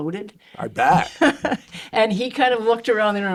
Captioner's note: chuckling